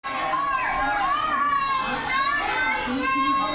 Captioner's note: protesters chanting